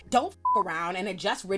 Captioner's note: beep